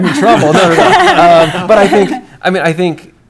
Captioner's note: laughter